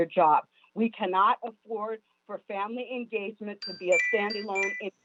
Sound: chime

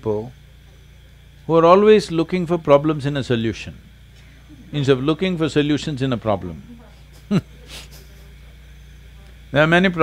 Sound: laughs

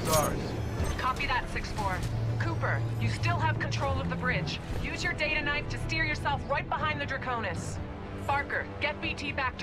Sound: radio

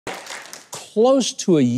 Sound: clapping

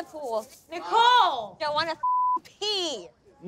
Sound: beep

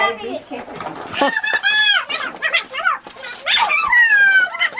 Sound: screeching

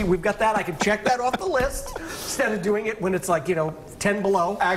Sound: laughter

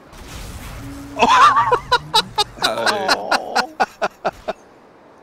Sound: laughter

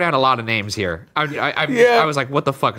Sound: stammers

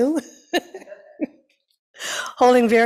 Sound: laughs

